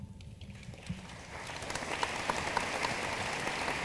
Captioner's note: room applauds